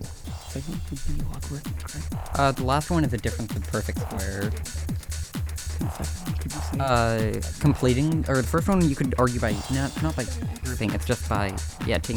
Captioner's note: whispering